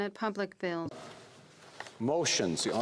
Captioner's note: speaking French